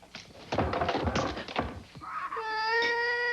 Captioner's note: cries